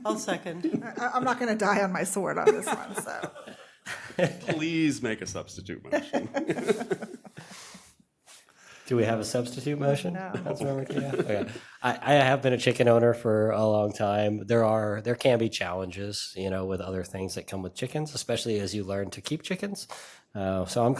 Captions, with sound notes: >> I'LL MAKE A MOTION AS WRITTEN. >> I'LL SECOND. >> I'M NOT GOING TO DIE ON MY WORD ON THIS ONE. SO. >> PLEASE MAKE A SUBSTITUTE MOTION. [ LAUGHTER ] >> DO WE HAVE A SUBSTITUTE MOTION? >> NO. >> OKAY. I HAVE BEEN A CHICKEN OWNER FOR A LONG TIME. THERE CAN BE CHALLENGES. YOU KNOW. WITH OTHER THINGS THAT COME WITH